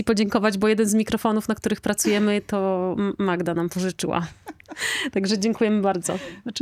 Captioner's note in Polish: śmiech